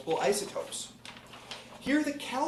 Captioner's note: pages flipping